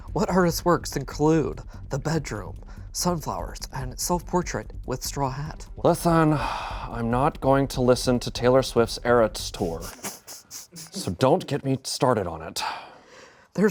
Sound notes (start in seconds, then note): 6.3 sighs